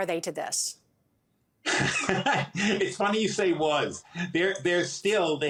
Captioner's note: laughs